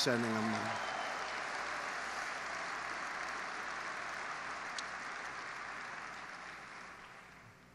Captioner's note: applause